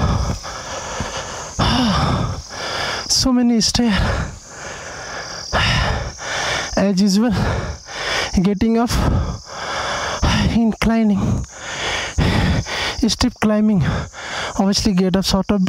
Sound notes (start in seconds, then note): 0.0 deep Breathing; 3.8 deep Breathing